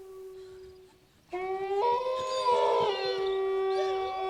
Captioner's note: wolves howl